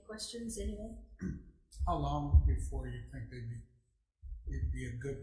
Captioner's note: clears throat